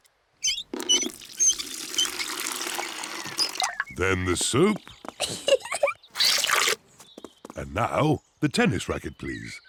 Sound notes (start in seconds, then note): 5.2 giggles